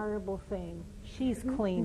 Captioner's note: laughter